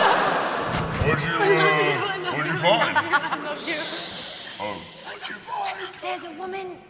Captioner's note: whispering